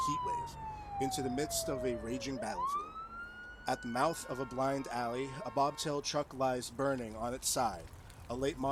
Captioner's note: siren effect fades